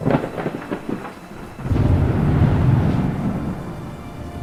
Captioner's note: thunder crackling